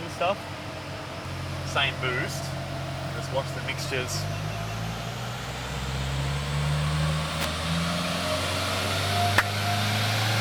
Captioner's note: engine accelerates; claps